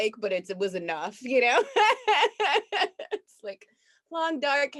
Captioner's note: laughs